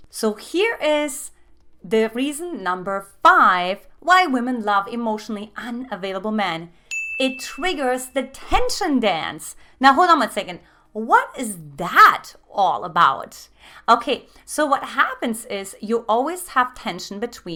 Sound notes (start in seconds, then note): 6.9 dinging